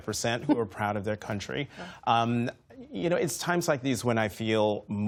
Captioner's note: laughter